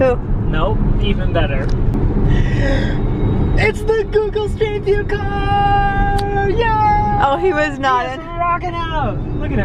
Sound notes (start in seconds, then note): 2.3 gasps